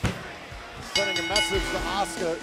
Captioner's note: bell dinging